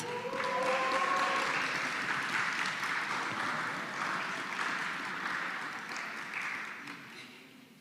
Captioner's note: applause